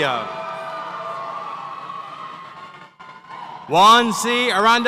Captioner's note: audience cheers